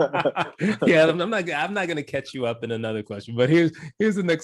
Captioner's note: laugh